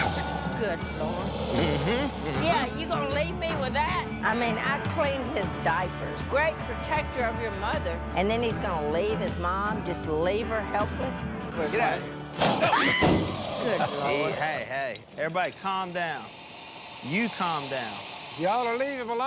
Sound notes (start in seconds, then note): 12.5 screams; 12.8 growling